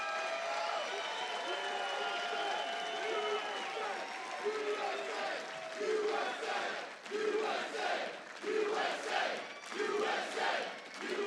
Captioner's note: audience chants "USA"